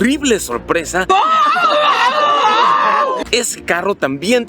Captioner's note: screaming desperately